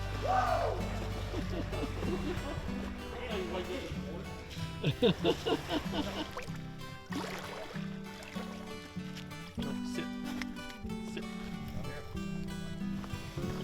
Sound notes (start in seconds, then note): 0.2 soft music; 4.3 hunters laughing; 6.8 soft music